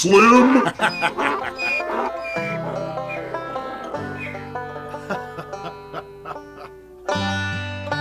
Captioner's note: laughter, burro braying, and wolf howling